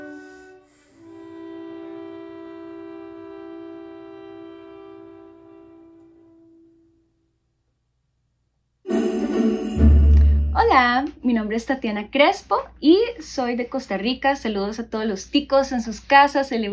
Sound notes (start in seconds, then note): 8.8 bright music; 10.4 speaking in Spanish